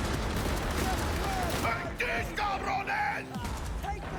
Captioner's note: speaking in foreign language